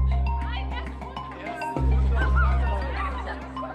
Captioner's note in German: Fernes Stimmengewirr